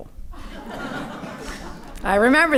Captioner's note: audience laughing